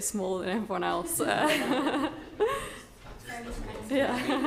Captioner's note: all laughing; laughs